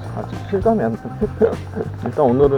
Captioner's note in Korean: 믿기지 않아서 헛웃음